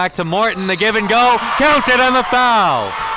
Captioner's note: whistle blows